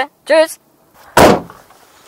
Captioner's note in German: krach